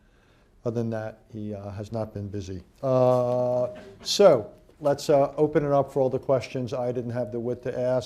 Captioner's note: laughter